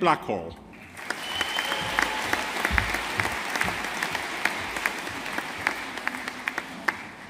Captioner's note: audience applauding